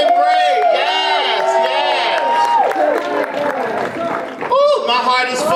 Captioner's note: audience applause